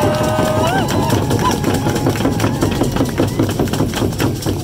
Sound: crowd cheers

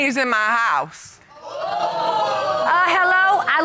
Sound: audience exclaiming

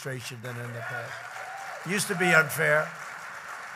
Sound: applause

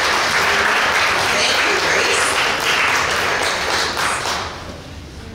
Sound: clapping

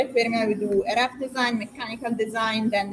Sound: faintly speaking

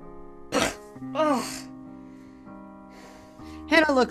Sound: winces

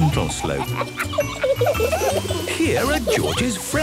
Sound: kids laughing

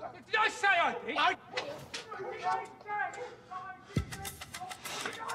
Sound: shouting

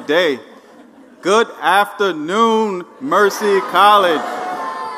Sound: laugh

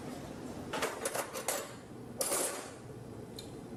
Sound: clinking

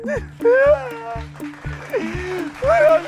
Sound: applause

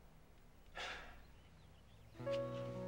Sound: Brandon sighs; melancholy music

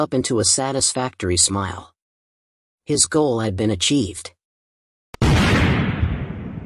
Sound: explosion

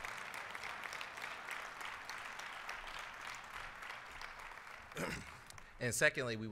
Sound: applause

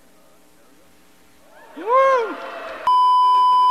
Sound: applause; beeeeeep

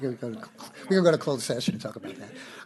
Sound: laughter

